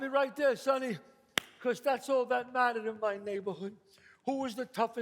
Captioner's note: claps